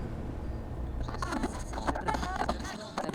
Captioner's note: sound of radio being tuned in